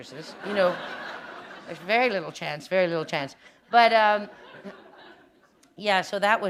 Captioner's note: laughter